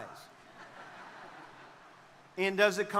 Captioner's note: crowd laughing